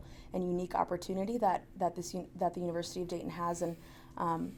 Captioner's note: none